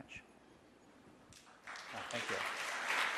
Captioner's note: applause